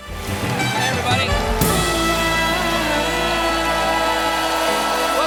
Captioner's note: applause